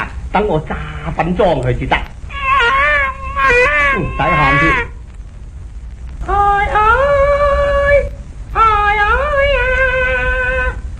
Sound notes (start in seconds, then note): 2.3 baby crying